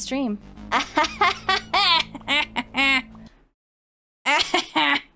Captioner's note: laughs